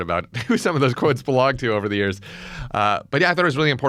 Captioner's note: laughs